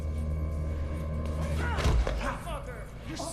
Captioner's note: grunts